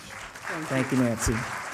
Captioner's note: applause